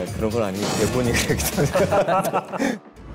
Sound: laughing

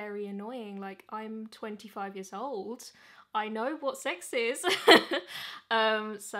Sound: chuckles

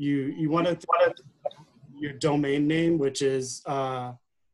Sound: audio interfering

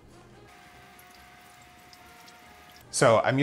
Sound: soft fast whirring

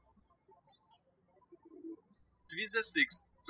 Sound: birds chirping

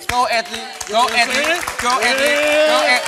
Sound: crowd applauding and cheering

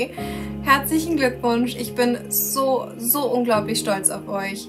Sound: in foreign language

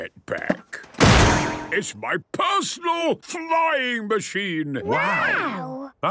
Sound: clangs

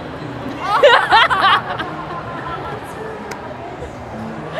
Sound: laughing

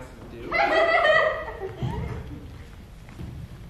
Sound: laughter

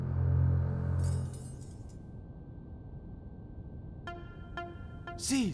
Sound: hangers clattering

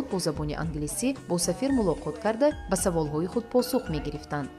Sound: journalist narrating in tajik

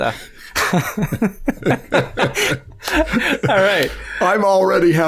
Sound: laughter

